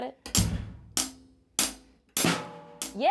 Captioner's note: drumstick tapping